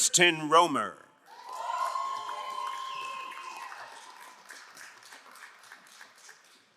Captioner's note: crowd cheering and applauding